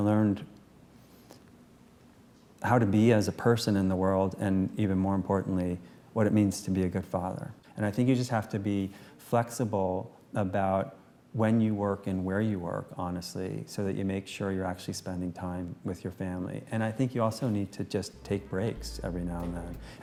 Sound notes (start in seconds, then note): none